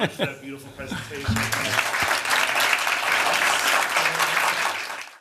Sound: applause

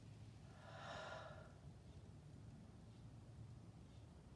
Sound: exhales

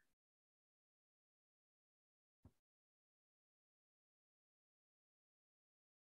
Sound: silence

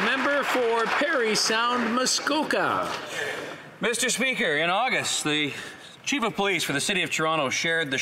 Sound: some Applause

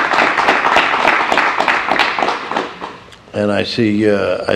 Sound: applause

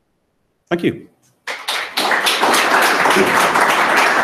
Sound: applause

